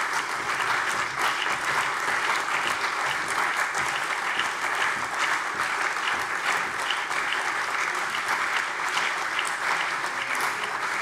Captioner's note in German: Beifall CDU, BÜNDNIS 90/DIE GRÜNEN, AfD, Freie Demokraten und vereinzelt SPD